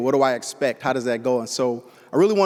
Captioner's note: none